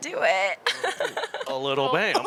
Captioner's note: laughing